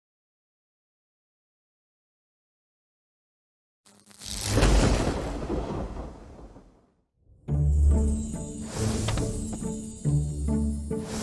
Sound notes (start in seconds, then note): 3.8 electricity buzzes; 4.6 thunder roars; 7.3 whimsical music playing